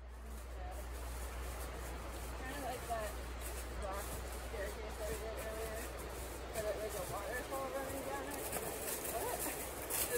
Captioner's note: crunching leaves